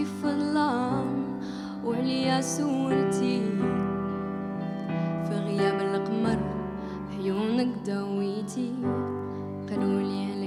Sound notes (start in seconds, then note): none